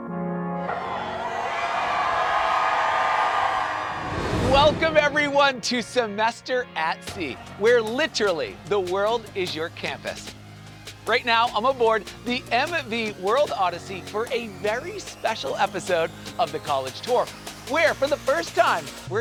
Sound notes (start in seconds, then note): 0.0 inspiring music; 0.6 crowd cheering